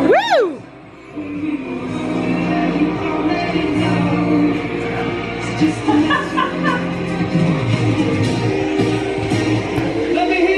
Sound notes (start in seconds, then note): 5.6 laughs